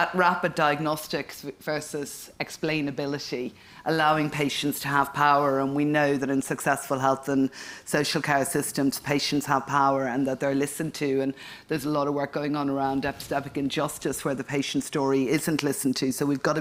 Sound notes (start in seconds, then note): none